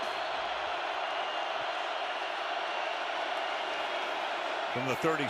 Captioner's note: cheering